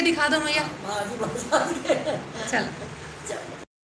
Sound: laugh

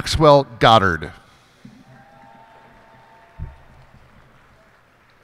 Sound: cheers and applause

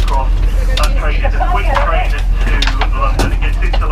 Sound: announcement in background

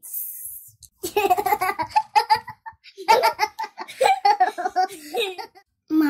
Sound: children laugh

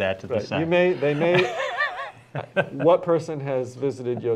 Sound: laughter

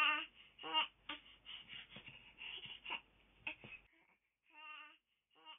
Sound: baby Crying

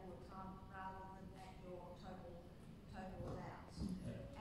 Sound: none

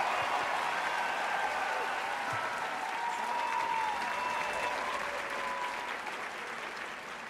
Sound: applause

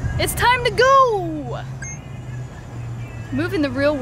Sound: beep

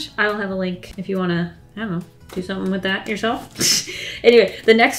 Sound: laughs

